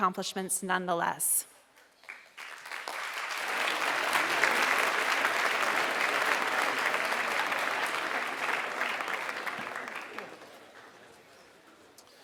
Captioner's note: applause